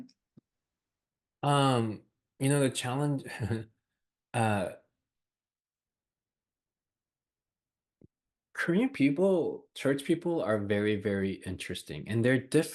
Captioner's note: laughs